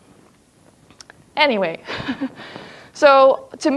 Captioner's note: chuckles